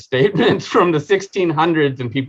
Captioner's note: chuckling